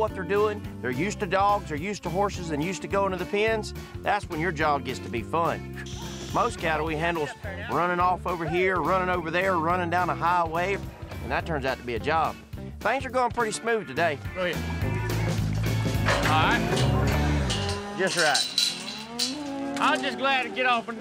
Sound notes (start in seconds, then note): 15.9 gate clanks shut